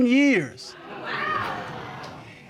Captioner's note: audience exclaims